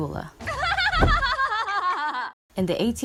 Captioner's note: laughs like a crazy person